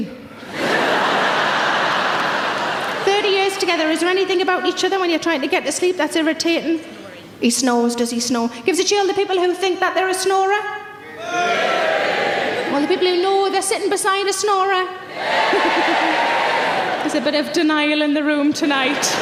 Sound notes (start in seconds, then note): 0.4 audience laughs; 11.2 audience cheers; 15.1 audience cheers